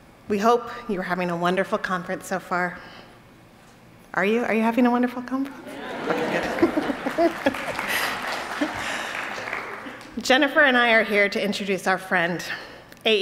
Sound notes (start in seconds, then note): 7.9 attendees applauding